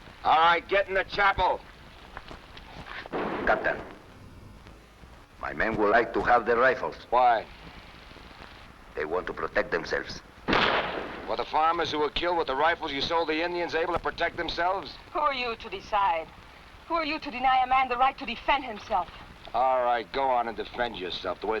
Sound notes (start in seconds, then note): 10.4 gunshots blasting